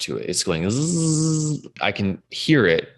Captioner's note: man buzzing